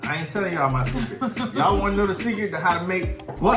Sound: laughing

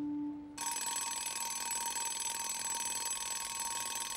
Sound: alarm clock buzzing

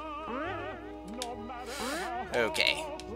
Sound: breathing

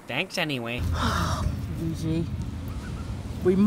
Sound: sighs

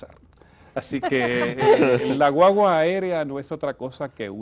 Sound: risas

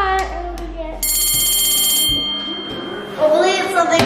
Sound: bell ringing

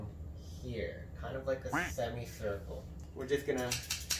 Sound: duck sound effect

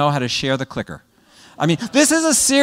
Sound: laugh

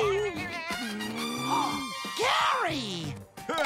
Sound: gasping

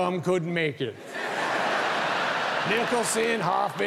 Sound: audience laughing

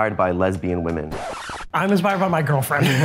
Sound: record scratch

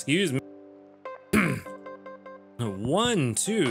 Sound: clears throat

